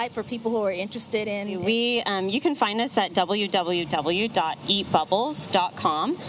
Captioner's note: none